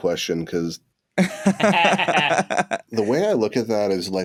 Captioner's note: laughter